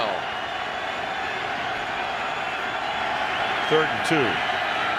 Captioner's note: cheering